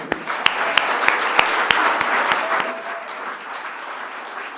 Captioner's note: applause